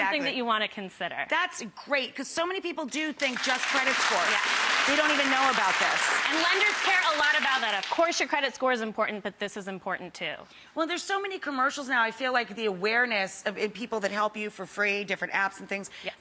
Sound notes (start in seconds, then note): 3.2 audience applauding